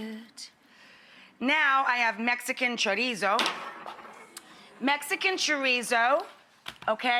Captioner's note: pan clattering